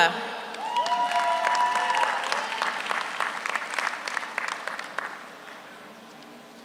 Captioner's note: audience applauds; audience cheers